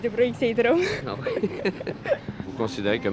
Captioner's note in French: rires